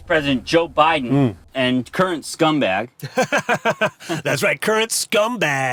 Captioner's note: Derek laughs